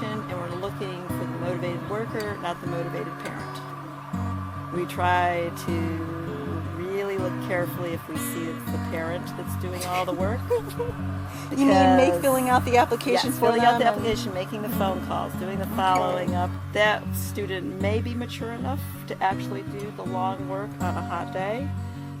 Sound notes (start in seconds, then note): 9.8 laughter